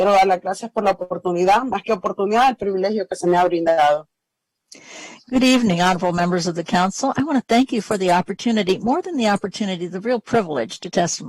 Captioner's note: speaking spanish